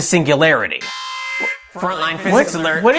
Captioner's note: alarm Noise